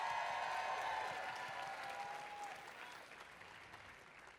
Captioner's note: applause and cheers